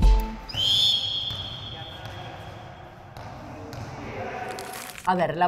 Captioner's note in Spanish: rebote de pelota